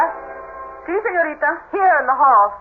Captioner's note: speaking Spanish